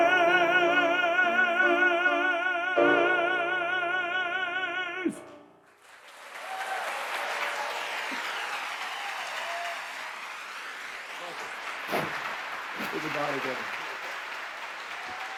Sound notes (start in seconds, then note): 6.2 applause